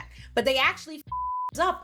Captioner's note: beep